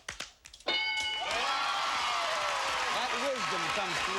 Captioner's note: cheers and applause